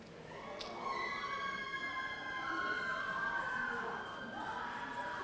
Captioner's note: audience cheering